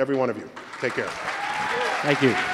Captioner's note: applause